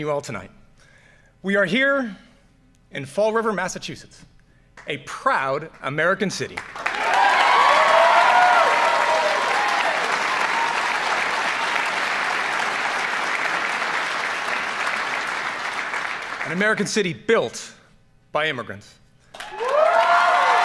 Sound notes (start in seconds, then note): 6.5 applaud; 19.3 applaud